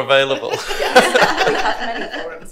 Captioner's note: group laughs